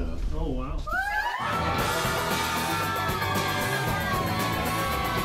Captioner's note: group cheering